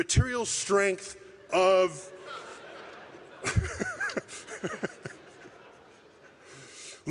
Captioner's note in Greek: γέλια